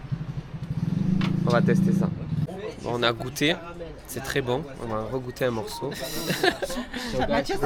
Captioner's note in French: rires